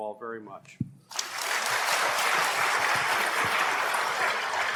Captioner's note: applause